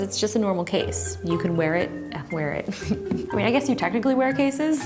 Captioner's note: laughs